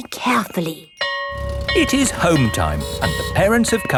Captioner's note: school bell ringing